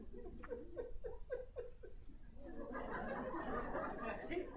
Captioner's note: audience giggles